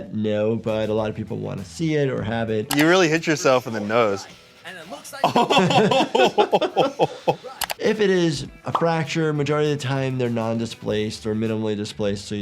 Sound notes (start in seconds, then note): 5.2 laughing